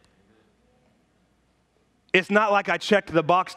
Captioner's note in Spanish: murmullos de congregación